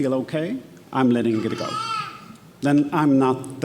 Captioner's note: baby vocalizing